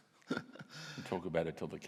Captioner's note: laughs